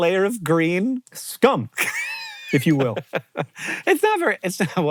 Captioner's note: HANK wheeze-laughs